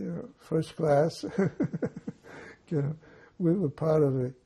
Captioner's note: laughing